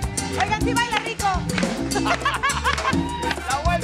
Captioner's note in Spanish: Ríe